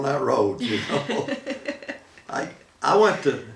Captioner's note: laughing